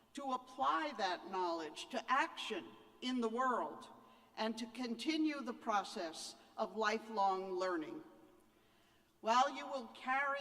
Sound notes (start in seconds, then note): none